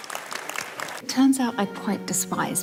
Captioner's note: audience applauds